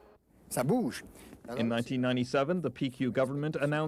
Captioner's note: man speaking French